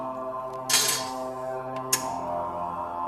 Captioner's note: speaking French